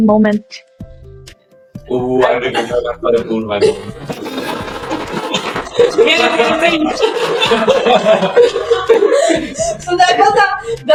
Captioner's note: laughter